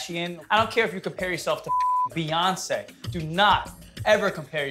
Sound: beep

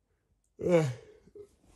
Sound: yawns

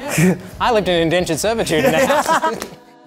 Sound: both laugh

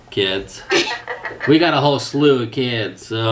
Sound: laughs

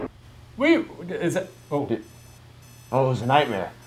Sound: sputtering

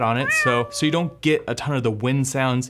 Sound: meowing

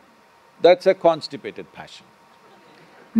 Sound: few laugh

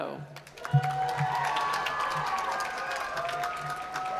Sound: applause

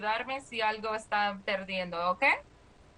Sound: speaking spanish

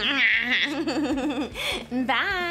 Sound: laughing

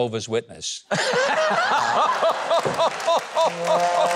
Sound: chuckles; sad trombone music

